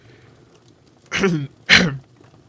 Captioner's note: Snape clears his throat, a little nervously